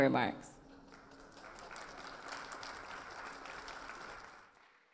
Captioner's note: audience applause